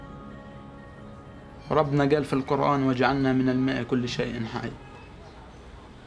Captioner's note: in Arabic